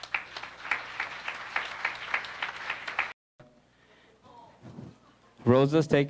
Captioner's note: applause